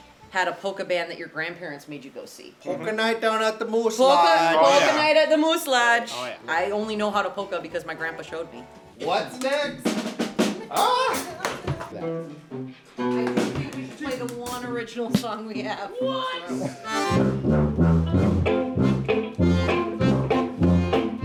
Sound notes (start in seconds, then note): 9.3 drums beat; 10.9 yells; 16.6 tuba blowing; 18.5 polka music